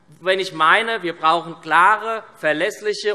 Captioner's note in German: none